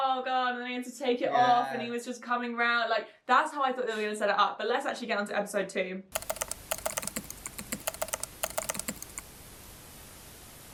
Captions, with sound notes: Oh god. And they had to take it off and he was just coming round. Like, that's how I thought they were gonna set it up. But let's actually get onto episode two. (keyboard keys clicking)